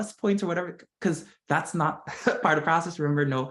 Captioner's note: laugh